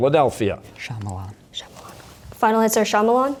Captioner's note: whispering